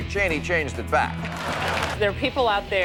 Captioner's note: laughter and applause